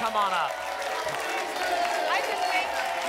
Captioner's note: applause and cheering cont